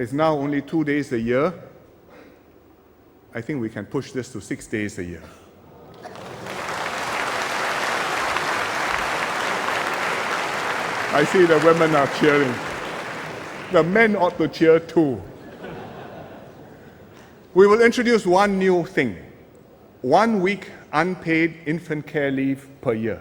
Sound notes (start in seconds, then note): 6.0 applause; 15.3 laughter